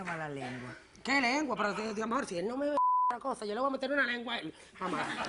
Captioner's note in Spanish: Bip